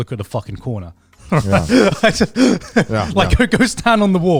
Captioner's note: laughing